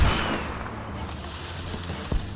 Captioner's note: footsteps pattering; gun bangs; suspenseful music